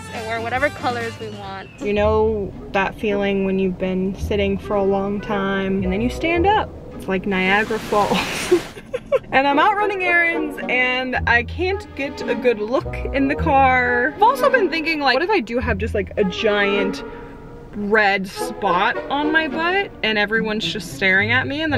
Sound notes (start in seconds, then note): 5.8 water splashing; 8.2 giggles